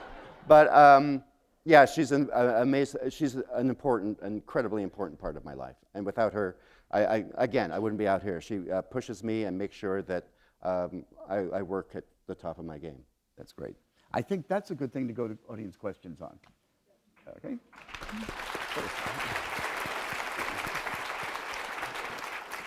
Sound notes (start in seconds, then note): 17.7 applause